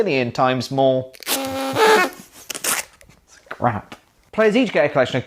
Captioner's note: pathetic party blower sound trust me it's crap